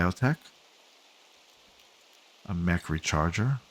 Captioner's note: silence